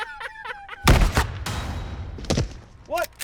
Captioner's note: laughs; gunfire echoing